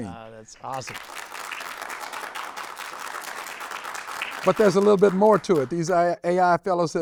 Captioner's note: applause